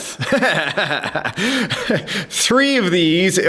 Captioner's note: laughing